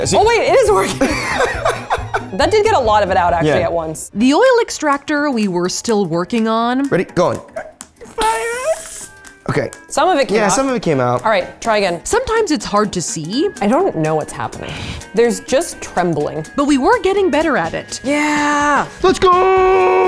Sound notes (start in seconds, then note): 0.6 laughs